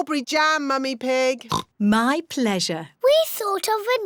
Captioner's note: oinks